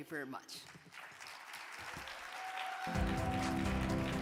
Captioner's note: audience clapping; upbeat music